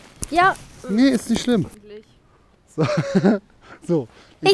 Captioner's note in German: Gelächter